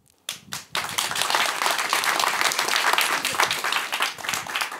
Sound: applause

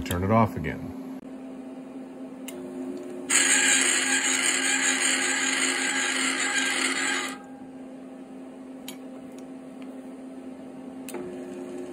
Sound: machining noise

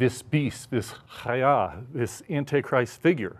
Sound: speaking in Hebrew

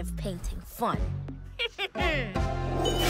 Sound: snickers

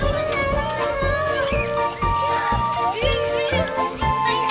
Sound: kids squealing, giggling

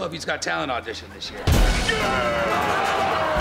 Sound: growling and screaming

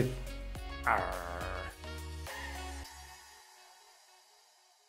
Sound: Captain Trash growls

